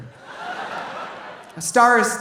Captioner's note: audience laughing